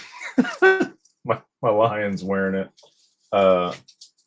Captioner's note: laughter